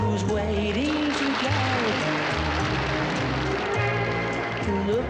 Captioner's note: audience applauds